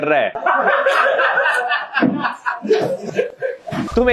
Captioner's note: laughing